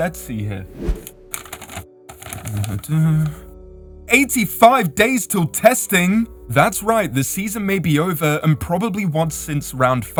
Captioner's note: rustling paper